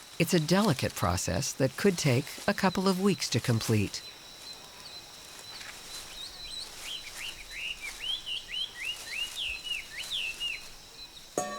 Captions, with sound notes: It's a delicate process that could take a couple of weeks to complete. (birds chirping) (leaves rustling)